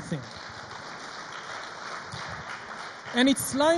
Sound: audience applauds

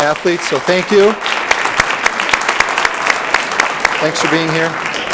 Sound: audience applauds

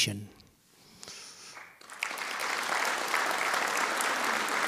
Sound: audience applauding

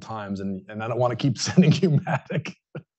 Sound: laughs

